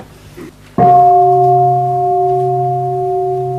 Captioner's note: bell